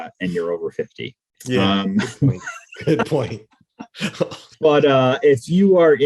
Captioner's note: laughing softly